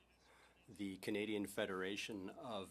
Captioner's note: speaking in French